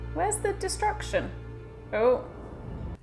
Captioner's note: none